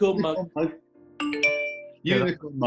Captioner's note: iPHONE TRI-TONE ALERT